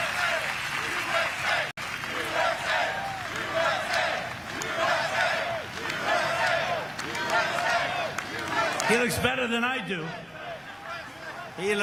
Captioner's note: cheering